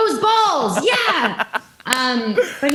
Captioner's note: laughs